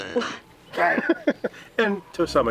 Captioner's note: laughing